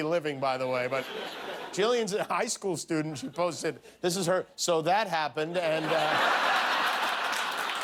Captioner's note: laughter